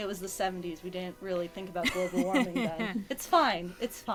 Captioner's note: laughs